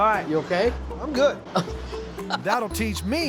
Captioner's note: laughing